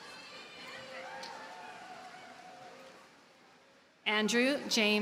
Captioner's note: audience cheers and applauds